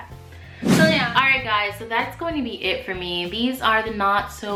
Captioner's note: swoosh